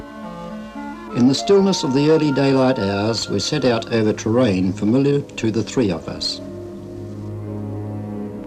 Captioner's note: man talking